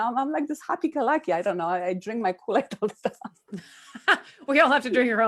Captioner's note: laughs